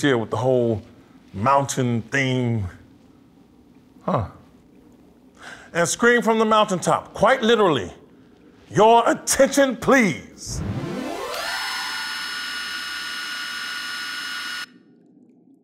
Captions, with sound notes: with the whole mountain theme. Huh. And scream from the mountaintop, quite literally. Your Attention Please! (whirring)